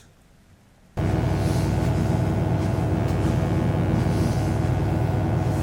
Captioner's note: electric buzzing